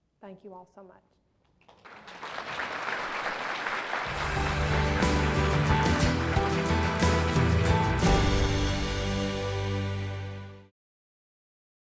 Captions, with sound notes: Thank you all so much. (applause) (uplifting music)